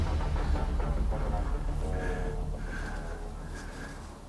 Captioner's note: loud breathing